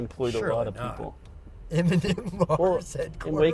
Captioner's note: laughter